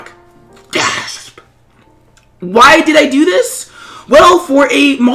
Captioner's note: gasp